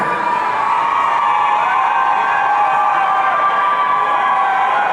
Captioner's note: audience cheering